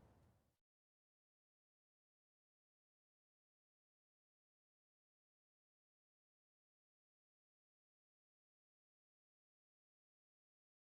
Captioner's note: silence